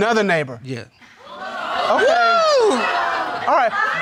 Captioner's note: crowd gasping